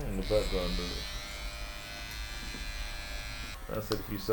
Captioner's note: clippers